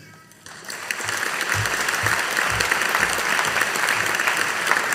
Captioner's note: audience applauding